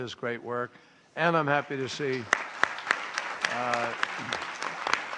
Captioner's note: applause